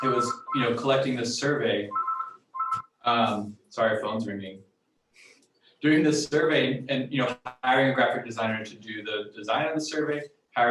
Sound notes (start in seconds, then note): 1.9 phone ringing